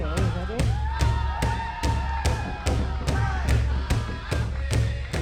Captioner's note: crowd cheers